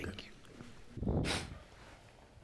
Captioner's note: sniffling